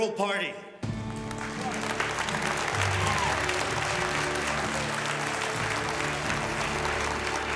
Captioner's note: tense music; members applauding